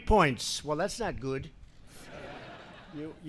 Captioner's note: laughter